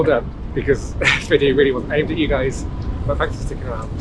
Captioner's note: laugh